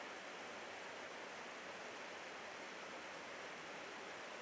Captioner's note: brook babbling